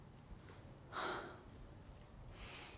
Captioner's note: exhale